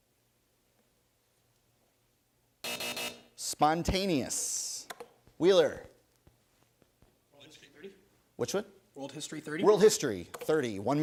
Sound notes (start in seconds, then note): 2.6 buzzer